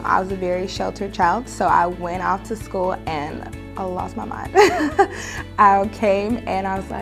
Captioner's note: laughs